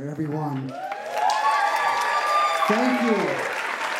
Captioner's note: clapping and cheering